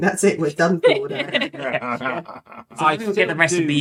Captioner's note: laughing